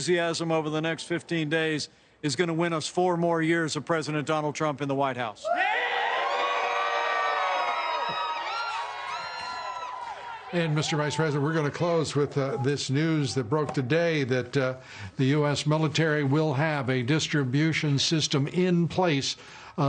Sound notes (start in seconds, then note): 11.1 cheers and applause